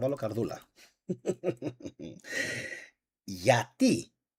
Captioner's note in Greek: γέλια